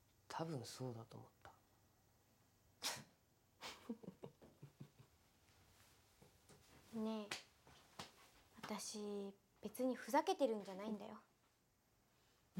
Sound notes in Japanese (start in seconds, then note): 3.6 笑い声